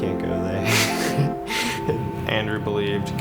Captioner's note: laughs